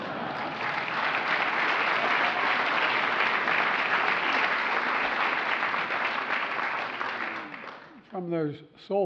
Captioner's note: laughter and applause